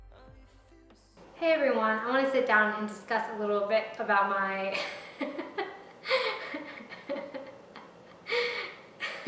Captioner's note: breaks out into laughter